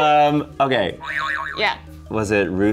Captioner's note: springing sound